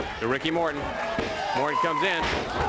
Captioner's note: crowd chatter; crowd cheering